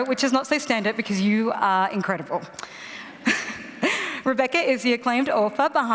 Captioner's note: laughter